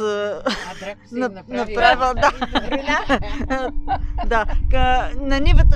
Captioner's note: laughter